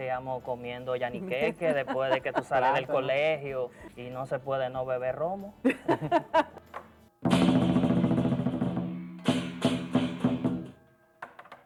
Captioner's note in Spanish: risas